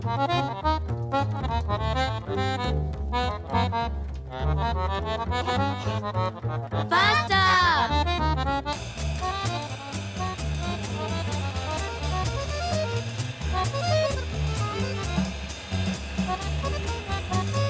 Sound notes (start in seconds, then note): 6.9 kids shout